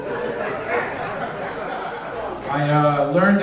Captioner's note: audience laughing